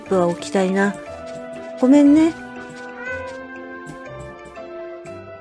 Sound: meow

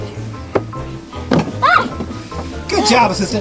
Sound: yelling

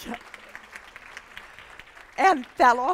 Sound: applause

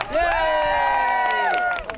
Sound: cheers

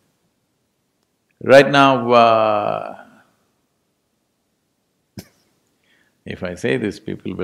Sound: chuckles

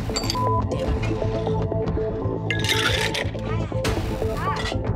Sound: beeping

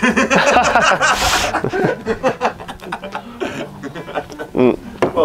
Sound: laughter

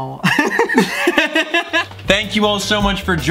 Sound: laughs

